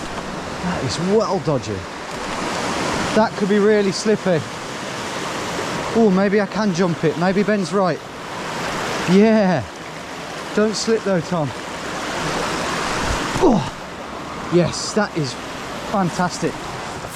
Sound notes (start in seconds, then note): 4.6 water rushing; 11.7 water rushing; 13.4 grunts